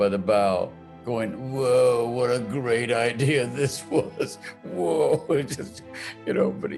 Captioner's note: laughing